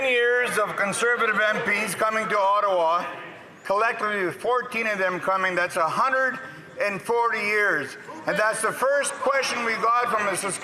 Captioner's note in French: voix de l'interprète